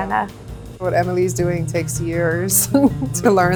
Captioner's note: laughs